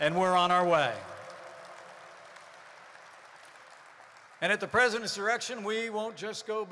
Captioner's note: applause